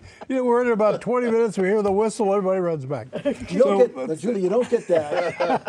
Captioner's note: laughter